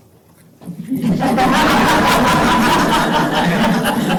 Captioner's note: laughter